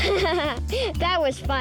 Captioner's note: laughing